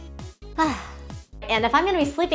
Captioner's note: sighs